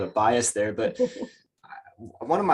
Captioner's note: chuckles